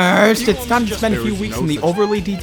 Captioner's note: Astarion yapping